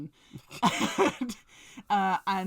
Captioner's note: laughs